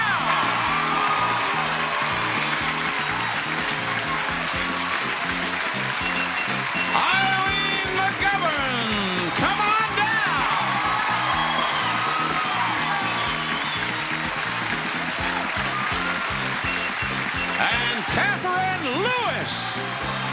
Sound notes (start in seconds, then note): 0.2 audience applauding; 0.2 lively music; 10.4 audience applauding; 10.4 lively music